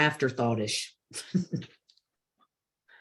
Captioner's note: chuckles